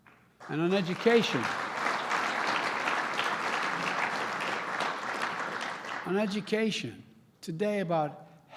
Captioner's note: applause